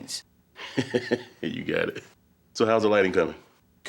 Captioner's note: laughs